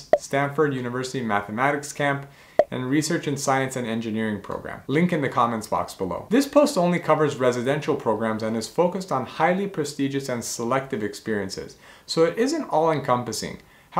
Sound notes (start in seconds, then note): 0.0 bubble popping; 2.3 bubble popping